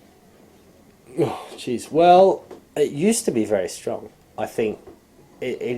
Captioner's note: sighs